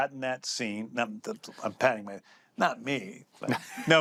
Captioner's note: laughs